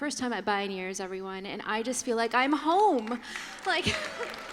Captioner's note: applause